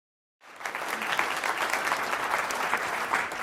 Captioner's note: applause